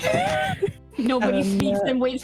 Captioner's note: laughter